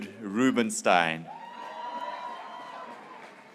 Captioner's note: graduates cheering